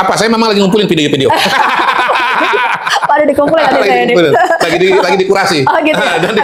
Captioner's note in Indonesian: tertawa